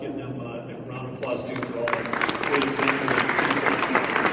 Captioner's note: clapping